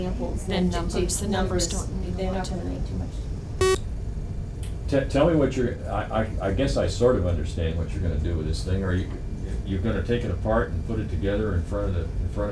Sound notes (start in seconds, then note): 3.6 beeping